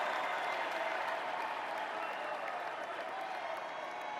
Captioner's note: cheers and applause